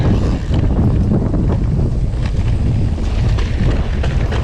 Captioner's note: bike ratchets